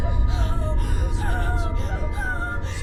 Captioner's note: woman sobbing